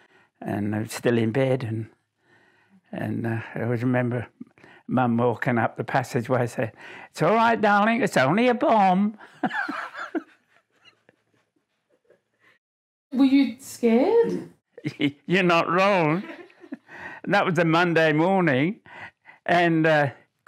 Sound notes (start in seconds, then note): 9.3 laughs; 15.9 chuckles